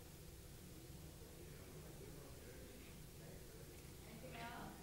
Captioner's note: people chattering faintly